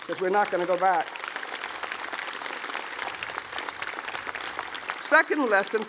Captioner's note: applause